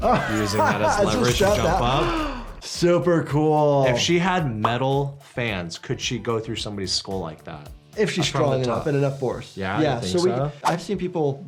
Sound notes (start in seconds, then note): 0.0 laughs; 1.9 gasps